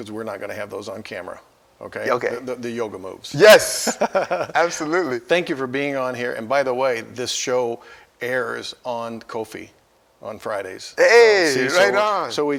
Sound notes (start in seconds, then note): 3.4 both laugh